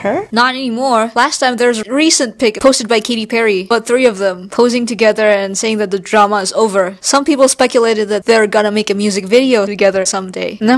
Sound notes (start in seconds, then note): none